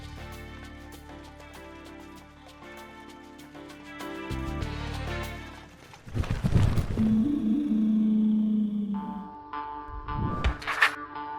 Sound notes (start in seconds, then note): 5.9 ballon sound